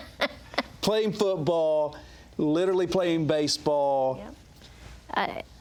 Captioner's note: laughs